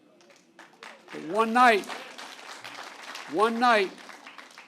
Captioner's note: applause